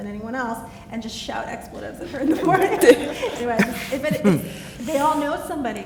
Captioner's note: laugh